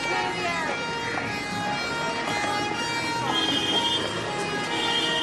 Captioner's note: siren wailing, horn honking